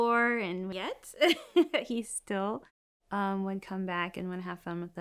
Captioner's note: laughs